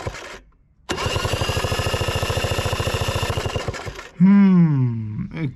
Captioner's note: engine Cranking Sound